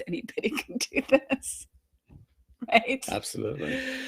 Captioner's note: laughing